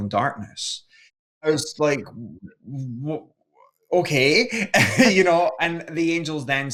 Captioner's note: laughs